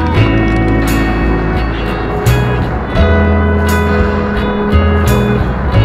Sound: cranking sound; wind blowing

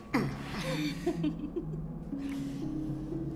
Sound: giggling

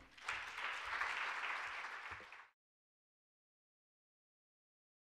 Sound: audience applauding

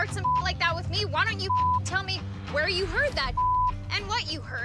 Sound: beep; beep

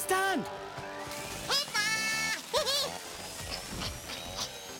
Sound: chainsaws buzzing; Bongalalas chirping

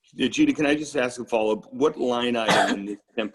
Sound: coughing

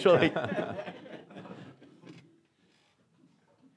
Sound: laughing

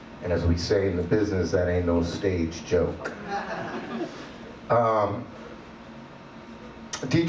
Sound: audience laughs

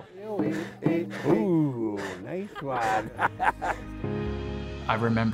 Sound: laughs

